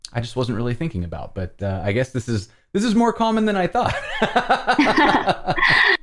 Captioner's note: laughter